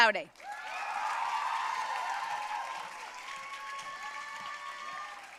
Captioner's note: audience cheering and applauding